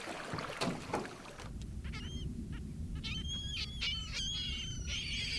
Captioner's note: seabirds calling